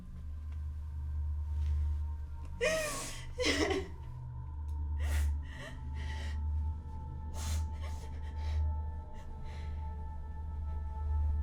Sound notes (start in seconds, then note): 0.3 eerie tranquil music; 5.2 Rose whimpering